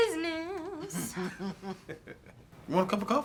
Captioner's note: Colleen laughs